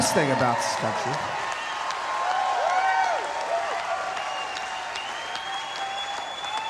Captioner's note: audience cheering and applauding